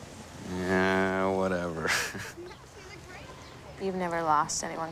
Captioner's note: chuckles